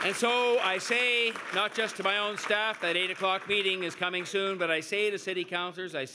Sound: cheers and Applause

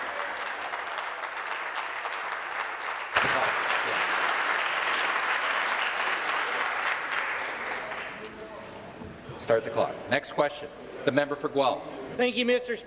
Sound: applause

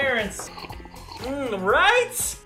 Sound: obviously fake slurp noises

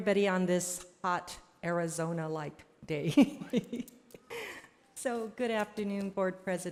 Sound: laughs

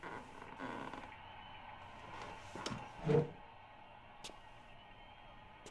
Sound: cheering on TV

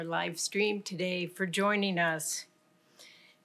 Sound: none

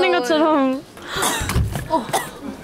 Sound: bang

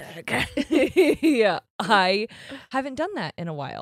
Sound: laughs

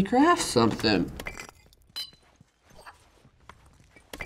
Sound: in game: clinking

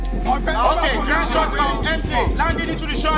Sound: all chattering

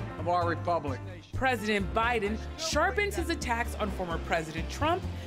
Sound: voice-over

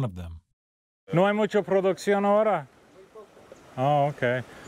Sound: speaking Spanish

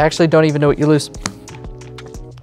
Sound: cards slap on table

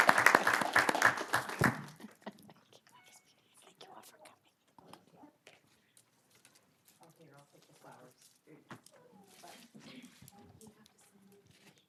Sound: applause

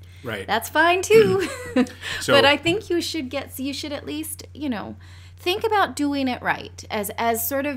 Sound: laughs

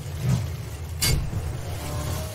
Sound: bonk; wrrrrrrrrrrrrr; swoosh

